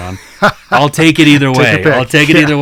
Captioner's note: host laughing